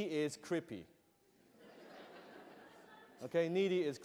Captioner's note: laughter